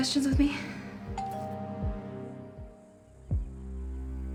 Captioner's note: door bell ringing